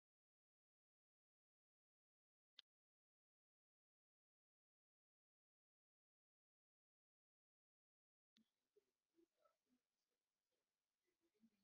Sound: silence

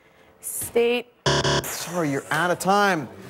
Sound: buzzer

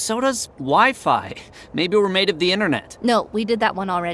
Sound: sarcastically

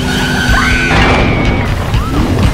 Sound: sound of boats colliding

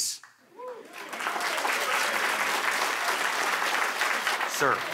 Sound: applause

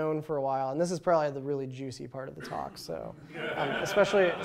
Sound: laughter

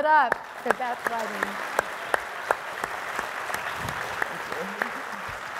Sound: audience applauds

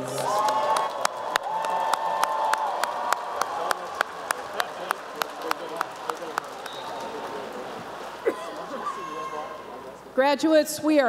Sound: applause and cheering

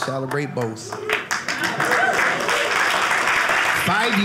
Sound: audience clapping

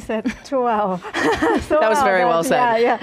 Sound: laughs

